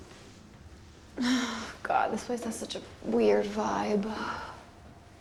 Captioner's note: sighs